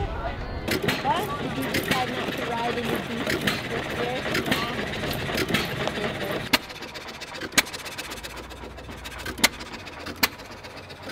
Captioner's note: ice-cream tractor engine sputtering